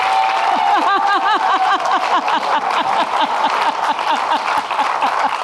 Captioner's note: laughing